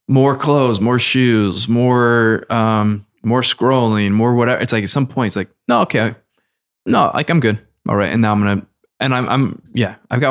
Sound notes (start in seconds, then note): none